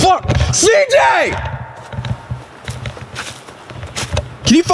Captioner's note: screaming